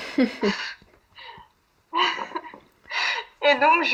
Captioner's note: laughs